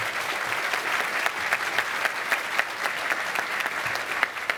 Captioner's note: cheers and applause